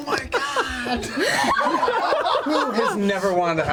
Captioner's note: all laugh